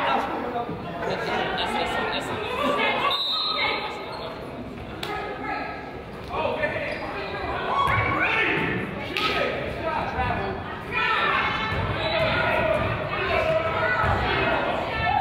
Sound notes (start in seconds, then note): 0.1 coach yells; 3.0 whistle blows